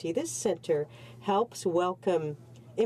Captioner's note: speaking French